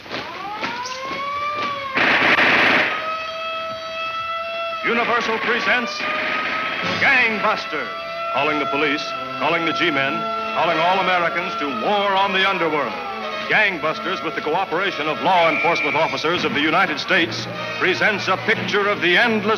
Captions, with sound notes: (siren blares) (gun fires) - Universal presents Gang Busters. Calling the police, calling the G-Men, calling all Americans to war on the underworld. Gang Busters, with the cooperation of law enforcement officers of the United States presents a picture of the endless war